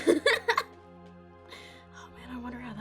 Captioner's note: laughing